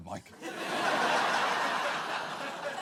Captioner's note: audience laughs